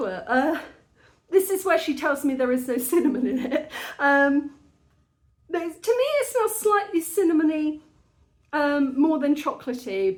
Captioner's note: laughing